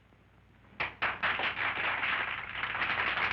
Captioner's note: applause